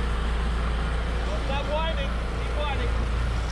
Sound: background chatter; boat engine running

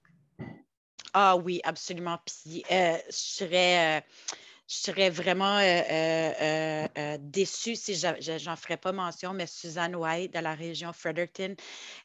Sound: French

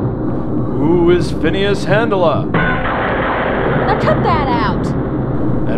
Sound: lightning strikes

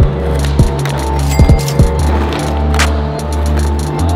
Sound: cha-ching

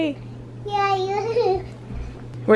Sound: laughs

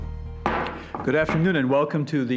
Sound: gavel hammers

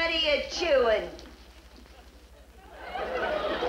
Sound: audience laughs

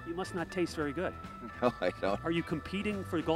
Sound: chuckles

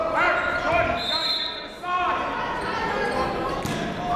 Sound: whistle

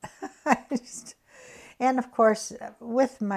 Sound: laughs

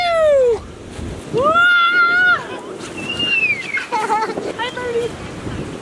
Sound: playful screaming

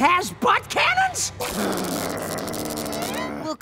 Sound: growling

